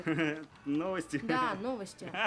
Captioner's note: laughs